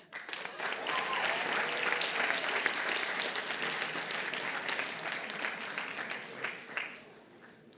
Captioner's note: applause